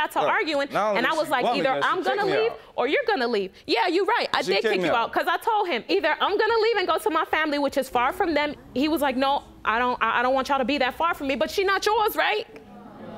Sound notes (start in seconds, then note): none